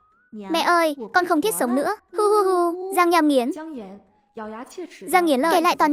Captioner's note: sob sob sob